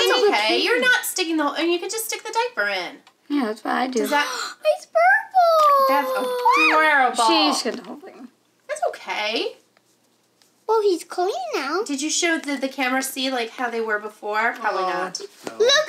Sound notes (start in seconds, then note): 4.1 gasps